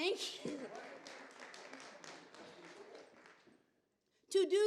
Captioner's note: applause